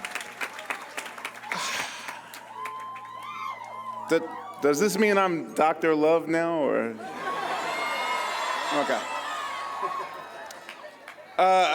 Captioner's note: cheering and applause